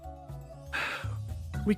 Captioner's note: sigh